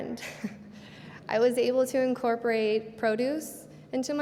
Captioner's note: laughs